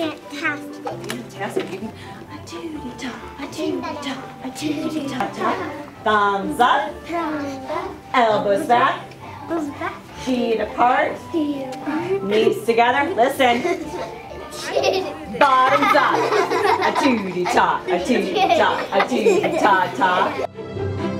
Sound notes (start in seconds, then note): 16.4 kids laughing; 21.0 bright string music